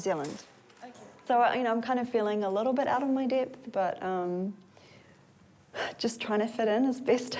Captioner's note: sighs